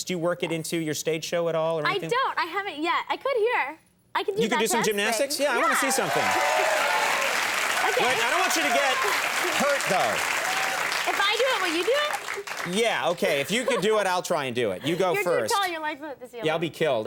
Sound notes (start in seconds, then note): 7.0 audience cheering